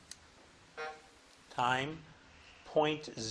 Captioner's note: buzzer buzzing